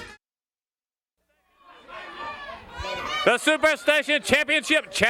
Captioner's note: crowd chatter